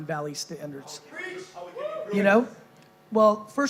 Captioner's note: cheering